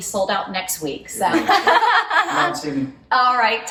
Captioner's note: laughing